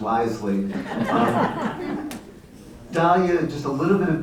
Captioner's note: laughter